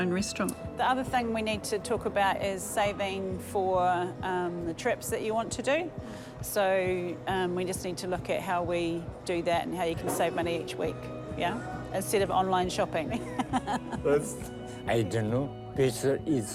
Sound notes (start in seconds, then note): 13.2 chuckles